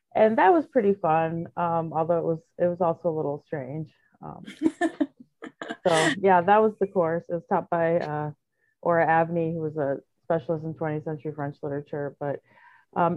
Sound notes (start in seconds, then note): 5.4 giggles